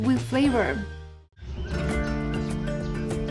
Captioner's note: birds chirping